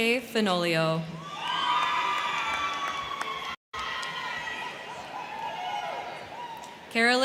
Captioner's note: crowd cheering; crowd clapping